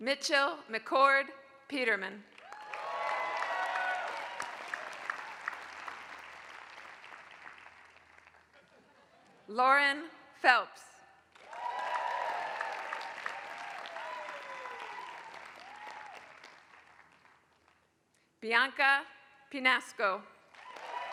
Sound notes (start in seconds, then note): 2.3 applause; 11.3 applause; 20.4 applause